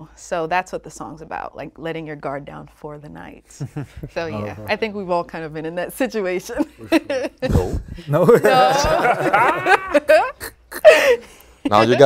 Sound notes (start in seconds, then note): 3.6 group chuckles; 8.0 group laughs